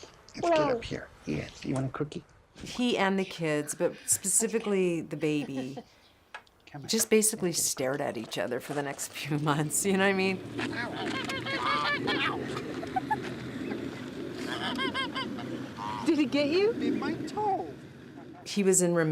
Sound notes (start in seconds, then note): 10.6 birds cawing; 11.2 giggling